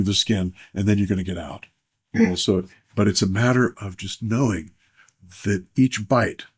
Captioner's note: clears throat